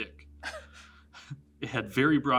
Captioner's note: giggles